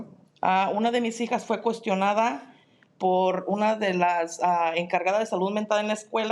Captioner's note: speaking in Spanish